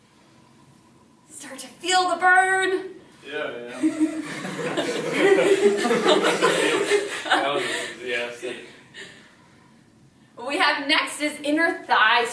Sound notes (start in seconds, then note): 3.7 chuckling; 7.8 laughing